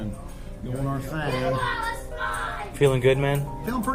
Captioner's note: child yelling